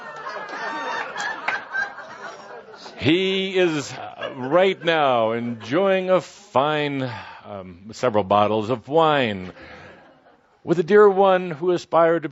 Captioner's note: much laughter